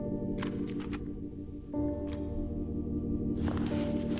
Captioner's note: matches clattering